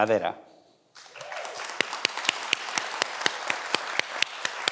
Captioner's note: everyone applauds